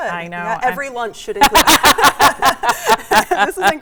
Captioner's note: both laugh